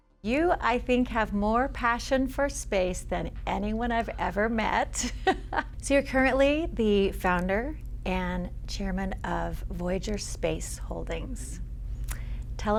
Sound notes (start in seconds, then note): 5.0 laughing